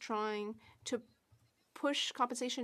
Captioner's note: speaking French